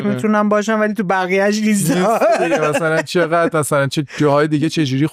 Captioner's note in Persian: خنده